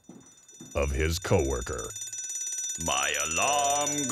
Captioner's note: alarm goes off